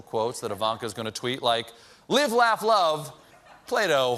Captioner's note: laughter